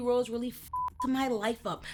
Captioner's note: beep